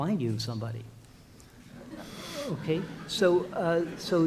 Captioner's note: audience laughs